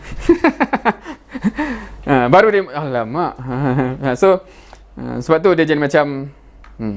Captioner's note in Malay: ketawa